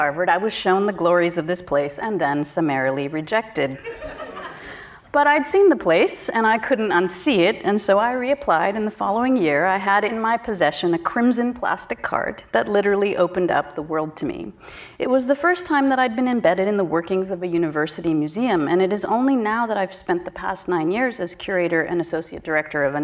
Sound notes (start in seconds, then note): 3.8 audience laughing